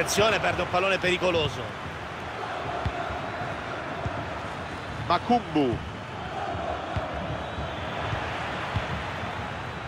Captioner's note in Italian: Applauso